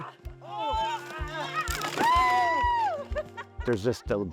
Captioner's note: cheering